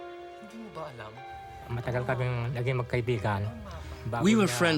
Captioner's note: non-english speech